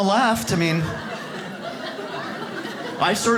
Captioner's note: audience laughs